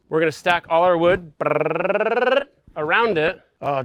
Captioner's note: mimics vibration sound